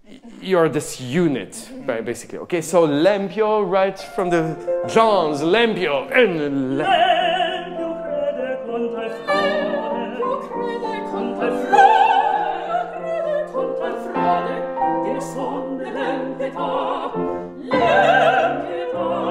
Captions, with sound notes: You are this unit, basically. Okay, so (singing in a foreign language), right from John's (speaking in a foreign language). (singing in a foreign language)